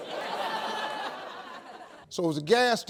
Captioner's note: audience laughs